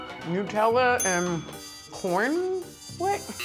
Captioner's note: dinging